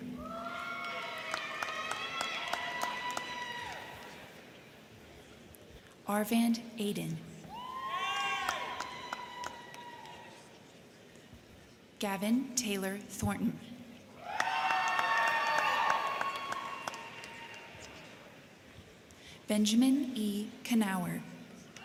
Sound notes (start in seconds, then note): 0.0 crowd cheering; 0.1 crowd clapping; 7.5 crowd cheering; 8.1 crowd clapping; 14.2 crowd cheering; 14.2 crowd clapping